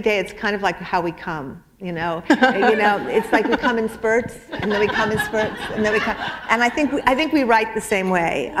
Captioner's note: chuckle